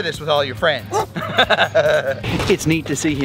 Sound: Barney barks

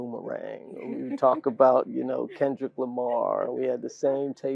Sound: laugh

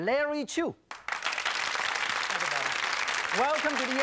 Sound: applause

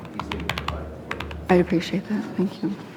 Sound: speaking off microphone

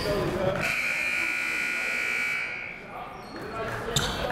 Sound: buzzer

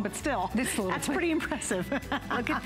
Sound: laughter

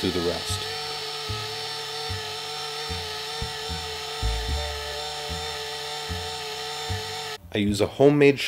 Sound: rewinding film

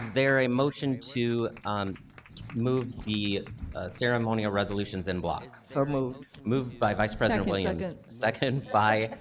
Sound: applause

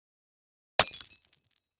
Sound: glass jingling

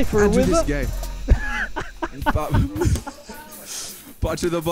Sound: laughing

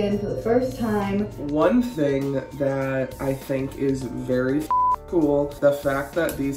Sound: beep

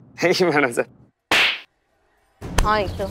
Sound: slaps

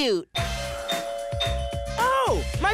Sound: bell ringing

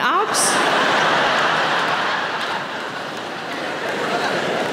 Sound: audience laughing

